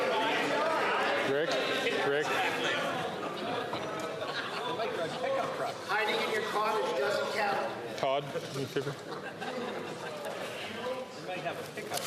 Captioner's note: chatter